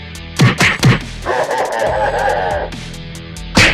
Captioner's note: covid: evil laugh